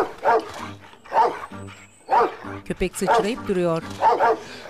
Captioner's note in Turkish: Köpek havlama sesi